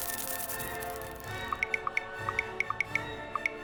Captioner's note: cellphone keyboard sounds